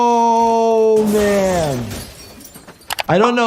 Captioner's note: glass shattering